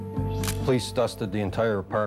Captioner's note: camera shutter click